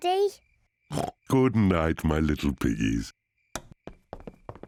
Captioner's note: oinks